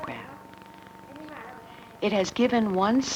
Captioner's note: hospital staff murmur